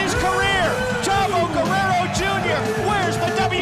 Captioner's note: crowd cheering